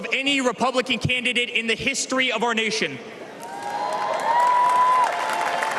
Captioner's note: cheers and applause